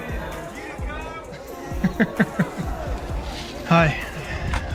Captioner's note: laughing